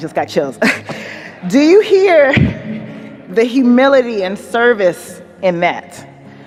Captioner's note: chuckles; chuckling